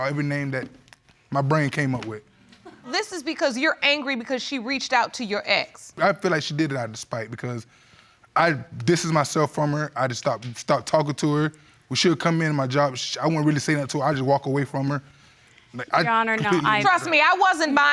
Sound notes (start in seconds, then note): 8.1 inhales